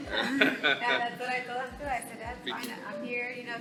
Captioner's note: laughter